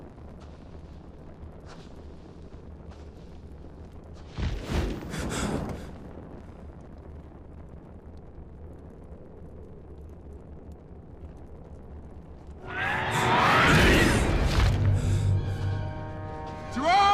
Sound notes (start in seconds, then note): 4.5 Perimedes gasping; 4.5 leaves rustling; 12.7 creatures screeching; 13.2 Perimedes gasping